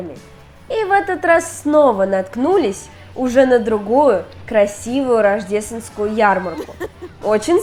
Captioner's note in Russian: смех